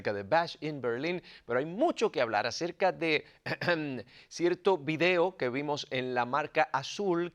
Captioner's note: cough